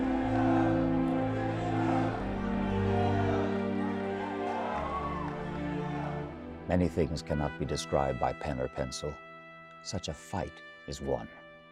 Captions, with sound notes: - [Voiceover] Many things cannot be described by pen or pencil, such a fight is one.